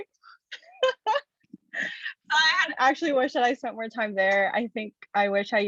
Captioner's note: chuckles